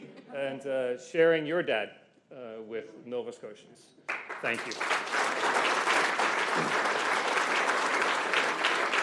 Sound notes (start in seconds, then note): 1.6 laughter